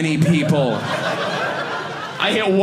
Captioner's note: audience laughing